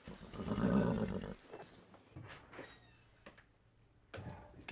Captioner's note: horse knickers